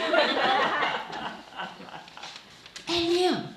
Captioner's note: laughing